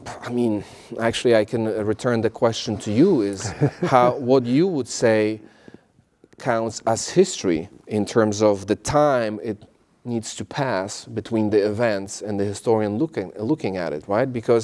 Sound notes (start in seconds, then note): 3.3 laugh